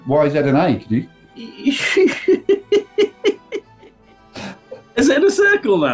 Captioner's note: giggling